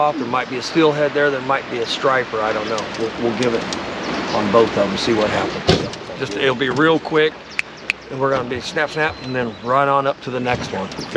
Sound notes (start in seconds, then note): 7.5 snaps fingers